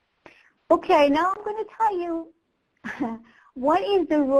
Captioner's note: chuckles